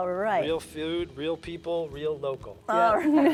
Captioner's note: laughs